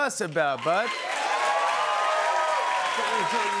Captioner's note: cheers and applause